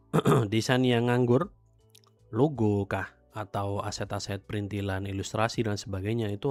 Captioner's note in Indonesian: berdehem